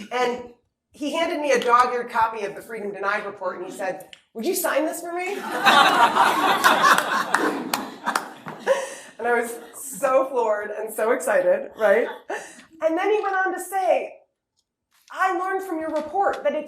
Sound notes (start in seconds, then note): 5.3 laughter